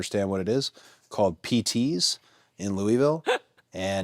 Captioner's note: Natalia laughs